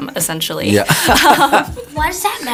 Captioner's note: laughs